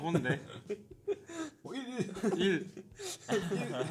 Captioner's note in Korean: 웃음; 웃음